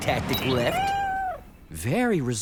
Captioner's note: meow